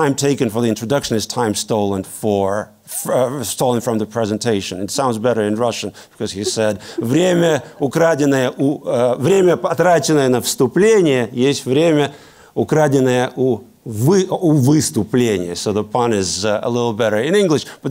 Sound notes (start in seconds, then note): 6.8 speaking Russian